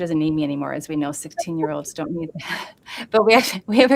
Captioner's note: laughs